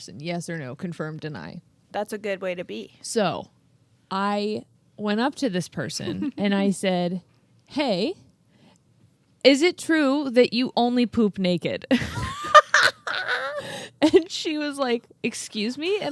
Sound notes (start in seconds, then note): 11.9 both laughing